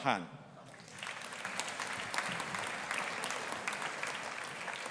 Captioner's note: audience applauding